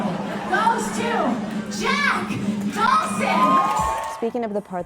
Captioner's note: audience laughing; audience cheering